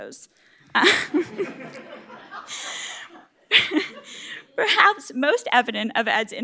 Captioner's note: laugh